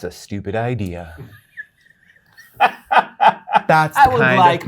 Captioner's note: guy laughing